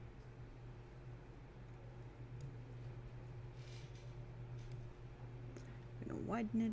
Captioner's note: typing, clicking